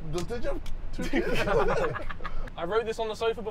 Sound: laughter

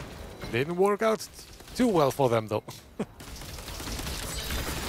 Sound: laughs

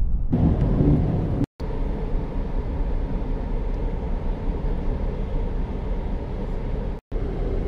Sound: normal car accelerating resumes

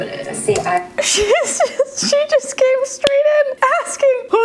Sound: laughs

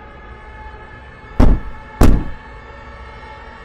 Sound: knock, knock

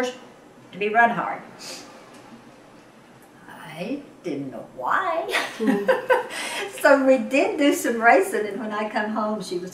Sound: laughs

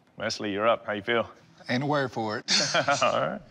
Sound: both laugh

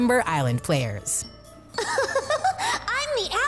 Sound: laughing

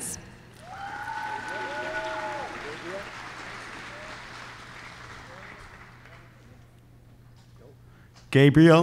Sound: applause

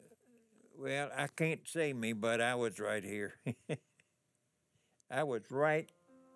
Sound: chuckles

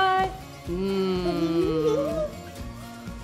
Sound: humming; giggles

